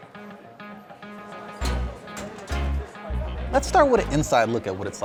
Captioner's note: upbeat music; chattering